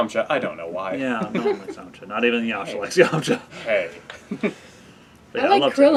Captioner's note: laugh